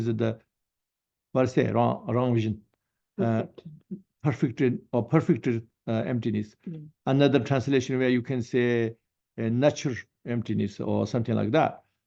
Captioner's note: tibetan